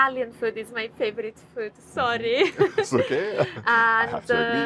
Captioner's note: chuckles